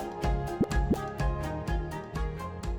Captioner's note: graphic pops